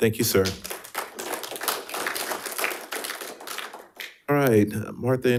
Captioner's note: audience applauding